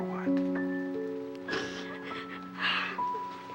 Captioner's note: sniffles